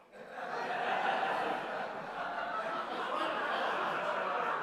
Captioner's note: audience laughter